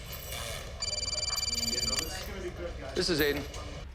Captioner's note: phone ringing